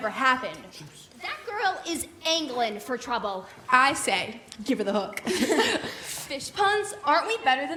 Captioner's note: laughter